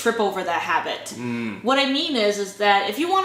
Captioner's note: grunt of approval